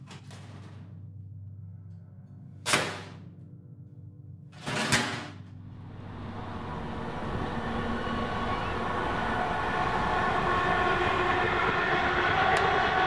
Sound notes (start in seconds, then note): 0.1 bang; 4.3 loud Metal Bang; 7.4 train Passes In Background